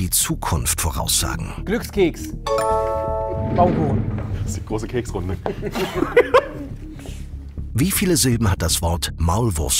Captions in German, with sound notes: Glückskeks. Baumkuchen. - Ist die große Keksrunde. (Lachen)